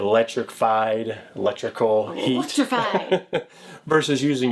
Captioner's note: laughs